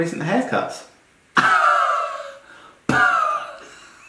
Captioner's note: laughs